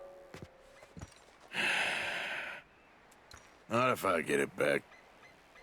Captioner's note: sighs